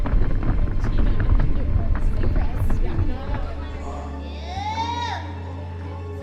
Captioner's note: feet thudding; gymnasts murmuring